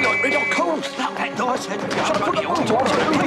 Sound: whistle; all shout at once

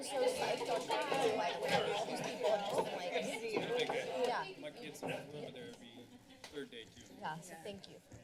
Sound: background conversations; laughter

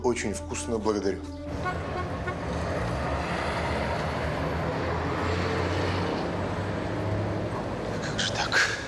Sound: city noise

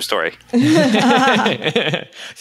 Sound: laughing

